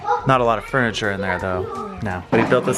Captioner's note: kids chatter